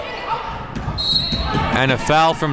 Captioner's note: whistle blows